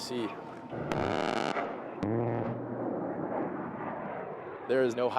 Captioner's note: roaring gunfire